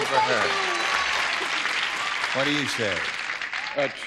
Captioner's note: applause